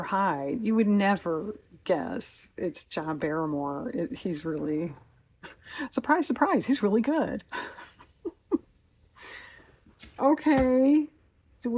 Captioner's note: laughs